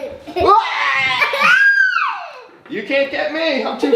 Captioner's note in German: lacht